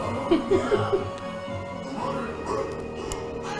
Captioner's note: laughing